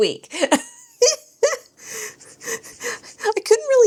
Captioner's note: laughs